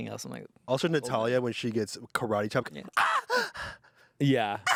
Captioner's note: screams